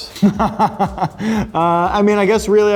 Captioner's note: laughing